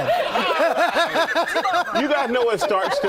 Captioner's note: laughter